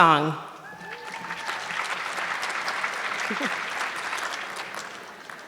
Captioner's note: audience clapping